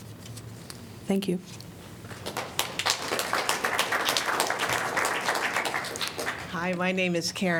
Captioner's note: applause